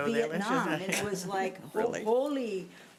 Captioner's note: laughing